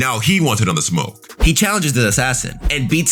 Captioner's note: air whooshing